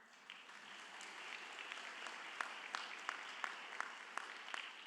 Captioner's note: audience applauds